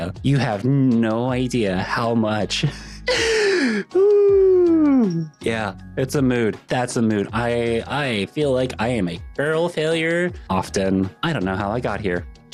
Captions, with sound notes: You have no idea how much. (gasping) Yeah, it's a mood. That's a mood. I feel like I am a girl failure often. I don't know how I got here.